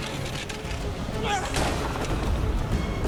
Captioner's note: grunts